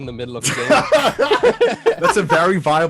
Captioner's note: laughing